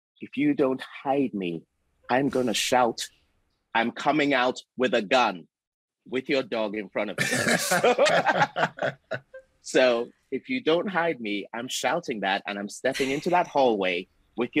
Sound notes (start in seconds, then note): 7.2 all laughing